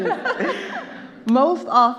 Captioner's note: laughing; all laughing